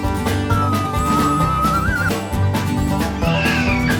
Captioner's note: yelling